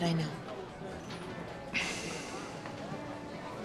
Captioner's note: exhales